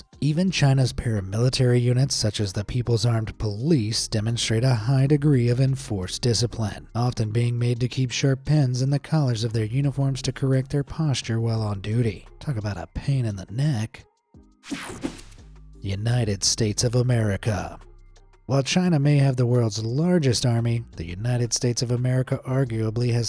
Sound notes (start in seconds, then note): 14.6 swoshing